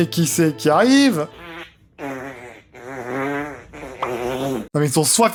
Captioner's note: not very subtle farting sound